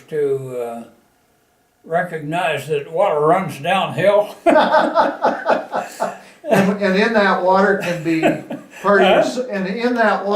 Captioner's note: laughter